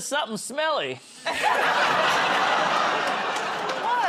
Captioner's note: laughter